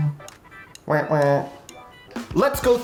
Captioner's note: phone buzzing; imitating phone buzzing